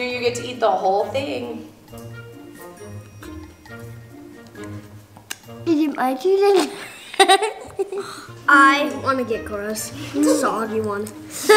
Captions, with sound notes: you get to eat the whole thing. (silly music) - Is it my turn again? (laughing) - I want to get Cora's. It's a soggy one.